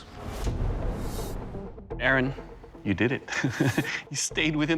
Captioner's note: chuckling